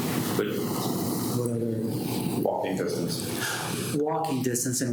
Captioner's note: faintly speaking